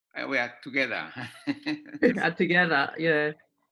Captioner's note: laughter